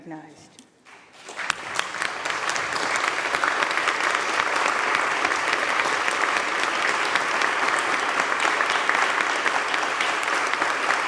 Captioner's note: applause